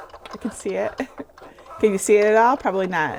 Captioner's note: laughing